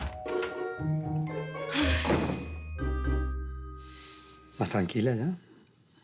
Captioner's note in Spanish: Portazo